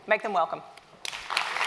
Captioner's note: applause